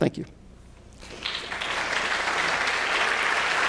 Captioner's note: audience applauds